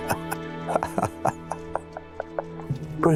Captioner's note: laugh